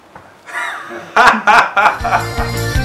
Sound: laughter

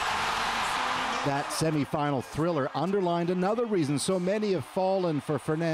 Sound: cheers and applause

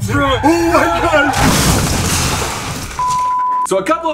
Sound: crashing

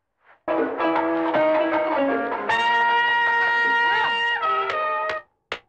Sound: radio starts playing

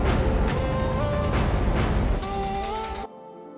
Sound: engines roar

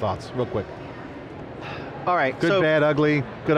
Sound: sighing

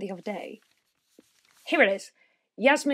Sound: the sound of rustling papers

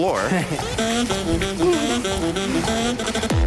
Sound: chuckles

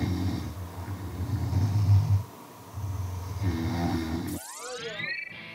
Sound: harmonizing through snores

